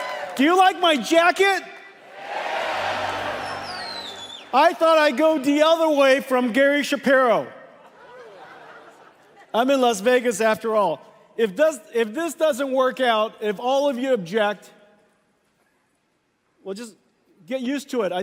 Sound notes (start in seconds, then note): 0.0 Applause; 0.0 掌聲; 2.5 Applause; 2.5 掌聲; 7.7 Laughter; 7.7 笑聲